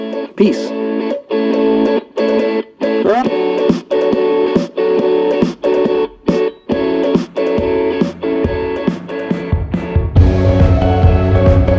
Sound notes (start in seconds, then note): 2.9 yells